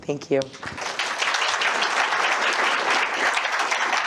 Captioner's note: applause